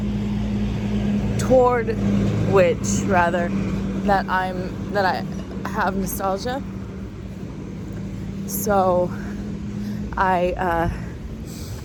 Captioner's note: stutters